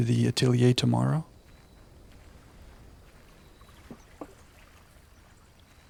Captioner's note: water splashing